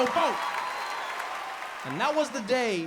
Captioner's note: audience cheers